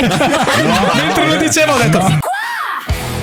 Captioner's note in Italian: laughter